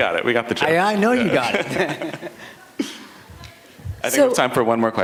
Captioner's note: laughter